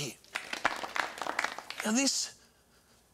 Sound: applause

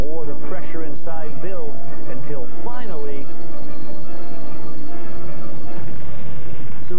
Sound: kettle whistles loudly

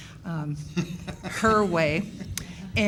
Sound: laughing

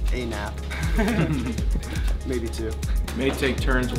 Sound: laugh

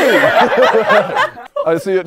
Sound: people laughing

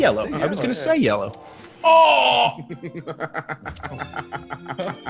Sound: laugh

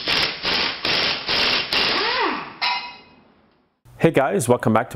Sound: impact wrench revving

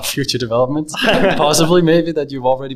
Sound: audience laughs

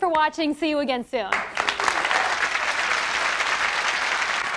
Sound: applause

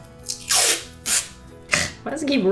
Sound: tape rips

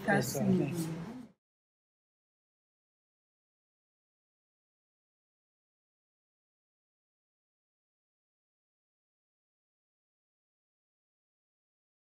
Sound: foreign language

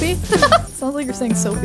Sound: giggling

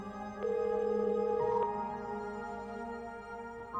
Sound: phone ringing

